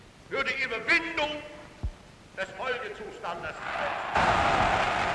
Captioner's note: crowd cheering